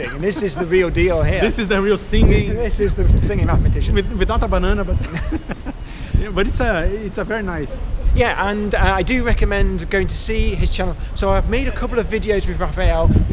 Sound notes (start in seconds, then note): 5.2 laughing